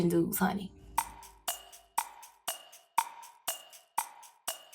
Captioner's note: clock ticking